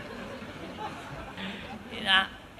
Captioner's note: laughter